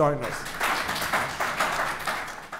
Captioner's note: applause